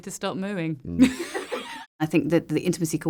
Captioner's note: laughter